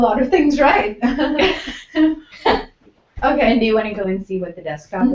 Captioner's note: laugh